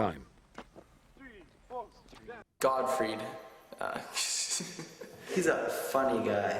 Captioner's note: laughs